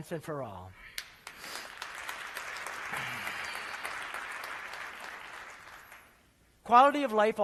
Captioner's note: applause